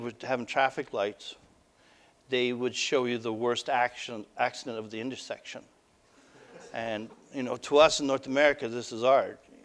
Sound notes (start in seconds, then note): 6.4 audience: Laughter